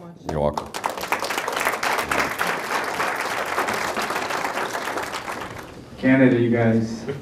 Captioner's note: applause